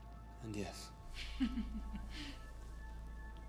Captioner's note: laughs